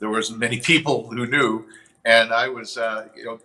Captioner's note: chuckles